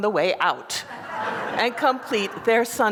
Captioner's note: laughter